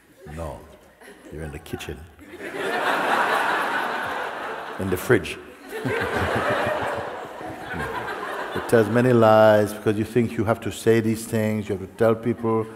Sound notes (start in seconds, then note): 3.5 laughter; 6.7 laughter